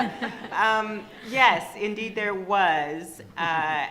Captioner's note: laughs